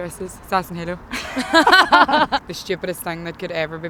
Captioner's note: laughter